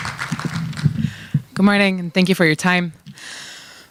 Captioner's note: applause